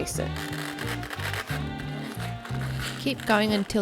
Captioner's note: cabbage squeaks